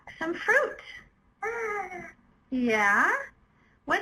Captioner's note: vocalizing